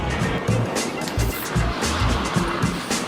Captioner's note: skating sounds